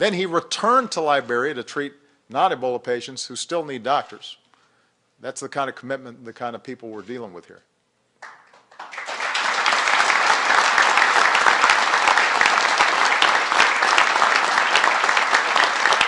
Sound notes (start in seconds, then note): 10.5 applause